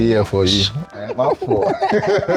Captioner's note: laughs